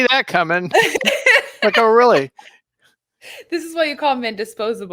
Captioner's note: laughing